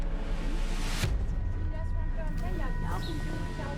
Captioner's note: chatter